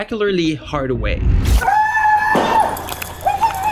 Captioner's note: woman screams